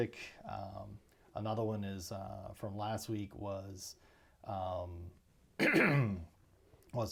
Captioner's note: clears throat